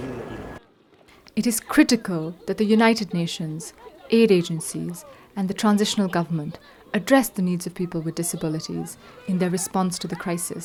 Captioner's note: voice-over